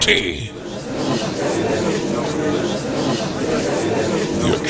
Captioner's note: gallery chattering